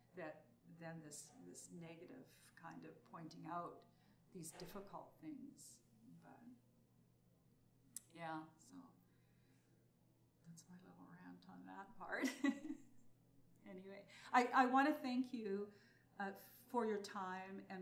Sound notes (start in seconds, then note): 12.1 laughs